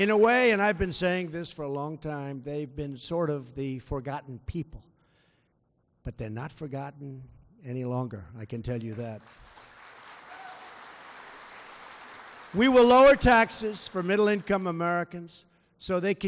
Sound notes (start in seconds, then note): 8.8 applause